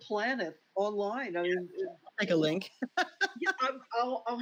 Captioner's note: laughs